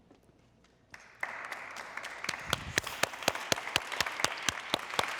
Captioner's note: people clapping